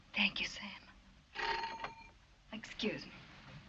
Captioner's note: bell rings